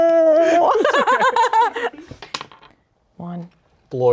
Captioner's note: everyone laughs